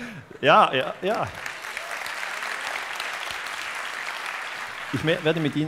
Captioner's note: applause